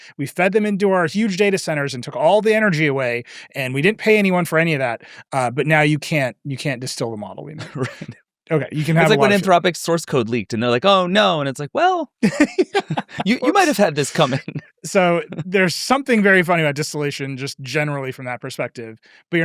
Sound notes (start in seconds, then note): 7.4 chuckles